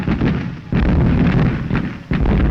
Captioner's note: guns firing